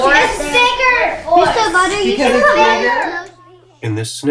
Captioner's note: chatter